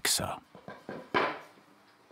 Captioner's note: short knock